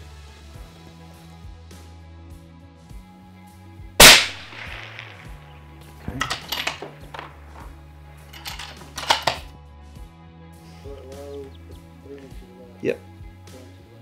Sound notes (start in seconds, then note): 4.0 fires gun; 8.3 reloading gun